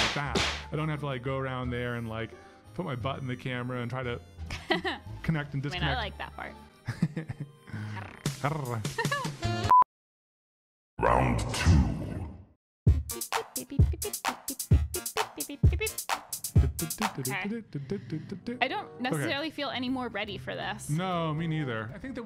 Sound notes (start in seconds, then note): 7.0 laughs; 7.0 purrs